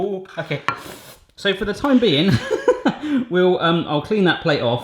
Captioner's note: laughing